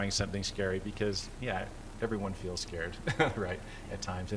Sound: laughter

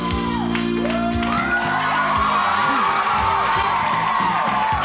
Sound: applauding and cheering

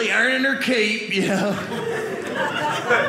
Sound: audience laughing

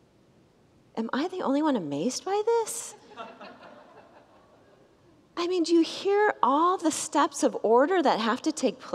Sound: congregants laugh

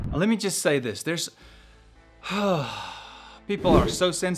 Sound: sigh

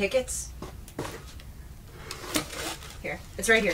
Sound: paper rustling

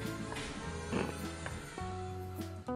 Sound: laughs

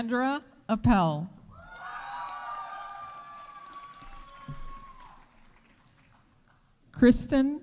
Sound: audience cheering; audience applauding

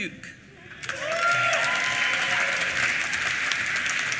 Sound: applause

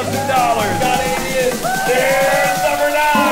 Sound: cheering

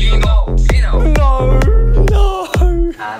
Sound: in the most australian accent possible

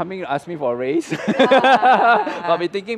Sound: laughs

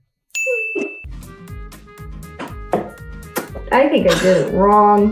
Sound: bell dinging

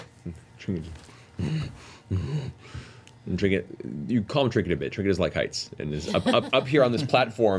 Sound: bear noises

